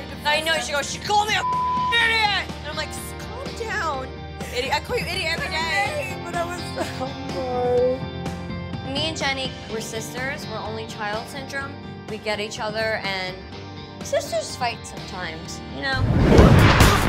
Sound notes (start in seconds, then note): 4.4 Jenni laughing; 15.7 upbeat music